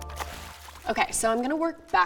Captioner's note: water splashing